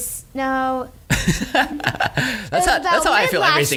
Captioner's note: laughing